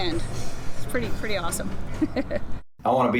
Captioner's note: chuckles